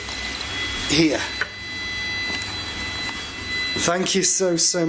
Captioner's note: machine beeping